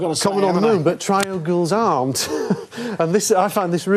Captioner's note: chuckles